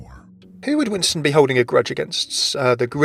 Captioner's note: voiceover